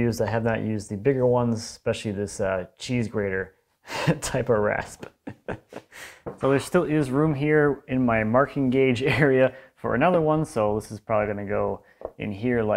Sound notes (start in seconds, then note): 5.0 laughs